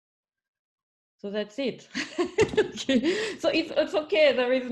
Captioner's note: laughs